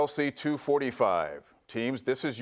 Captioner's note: none